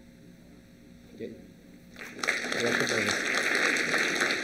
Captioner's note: applause